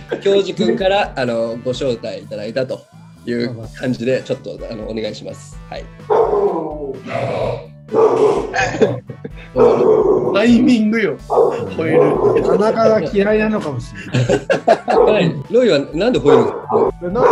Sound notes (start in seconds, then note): 11.2 Roy barking